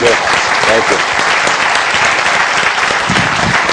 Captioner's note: applause